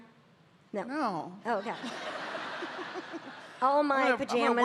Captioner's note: audience laughing